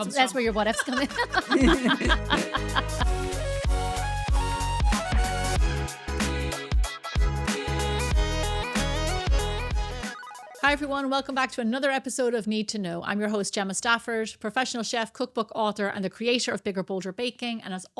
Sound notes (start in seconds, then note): 0.4 laughing; 2.4 upbeat music